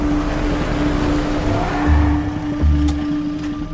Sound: vehicle Screeching

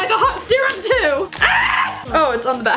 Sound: screams

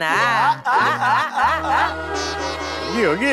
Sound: laughing

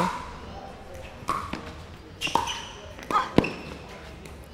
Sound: ball bouncing

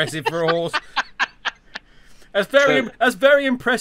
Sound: laughs

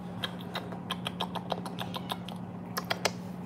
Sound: kissing sounds

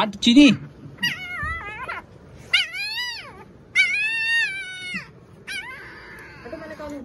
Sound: the puppy being whine

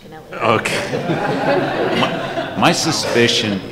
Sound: laughter

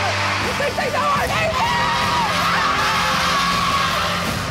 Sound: shouting

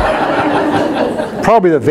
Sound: audience laughs

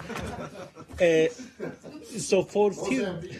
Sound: laughter

